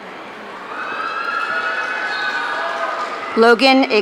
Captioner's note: audience cheering